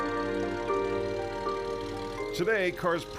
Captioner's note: engine turning over; engine puttering